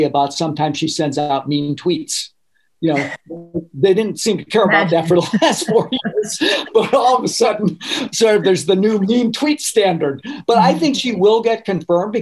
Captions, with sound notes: about sometimes she sends out mean tweets. (laughing) They didn't seem to care about that for the last four years. But all of a sudden, so there's the new mean tweet standard. But I think she will get confirmed